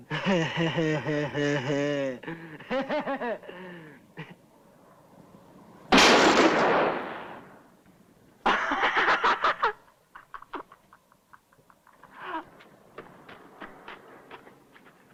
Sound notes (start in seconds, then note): 0.0 laugh; 5.9 gunshot; 8.4 laughter; 11.7 running footsteps